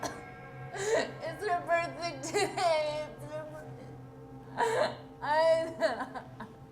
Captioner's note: sobbing